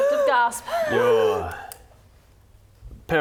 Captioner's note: gasping